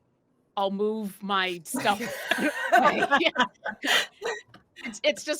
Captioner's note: laughing